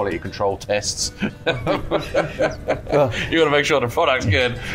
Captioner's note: laughing